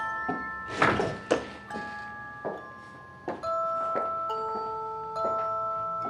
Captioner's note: door slams